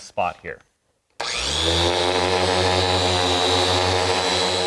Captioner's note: machine whirring